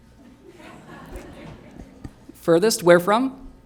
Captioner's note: audience chattering